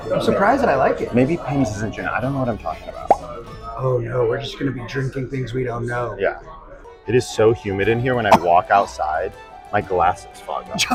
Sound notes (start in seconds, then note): 3.3 bubble popping